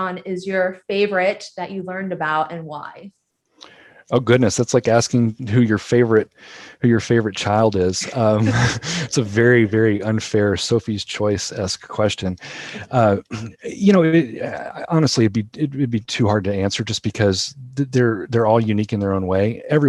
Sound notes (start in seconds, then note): 7.8 laughing